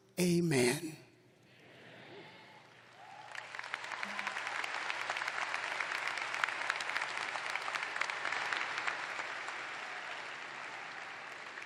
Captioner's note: applause